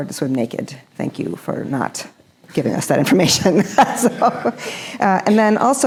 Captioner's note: chuckles